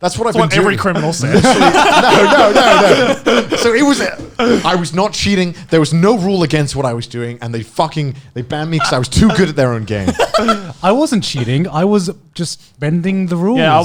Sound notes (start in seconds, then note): 1.9 all laughing; 10.0 laughing